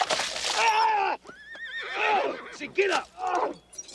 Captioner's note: Cyrus shrieks